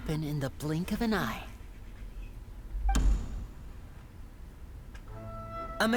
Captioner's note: door closes